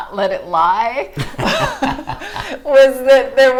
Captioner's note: laughing